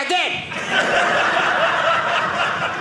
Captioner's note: audience laughing